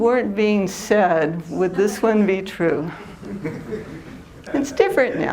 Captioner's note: laughter